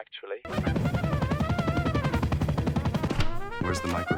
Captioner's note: helicopter thrumming; dramatic music